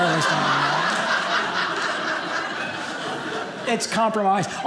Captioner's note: audience laughing